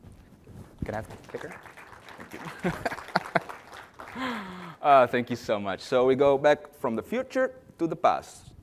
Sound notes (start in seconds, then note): 2.4 applause